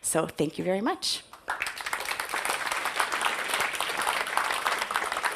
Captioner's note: audience applauds